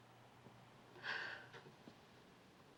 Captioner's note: sighs